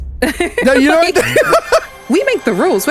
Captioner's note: laughing; laughs